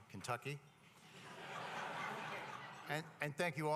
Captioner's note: laughter